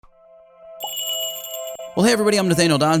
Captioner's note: magical jingle